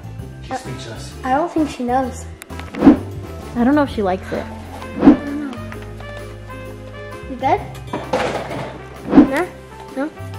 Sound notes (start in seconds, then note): 2.7 air whooshing; 4.8 air whooshing; 6.8 happy holiday music; 7.8 clattering